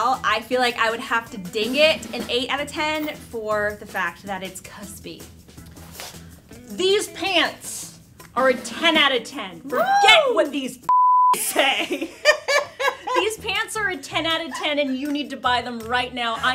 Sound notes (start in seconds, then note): 10.9 beep; 11.4 laughter